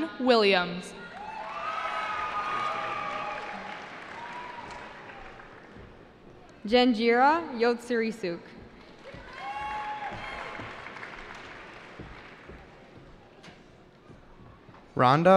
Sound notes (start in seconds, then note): 0.9 cheering; 9.0 cheering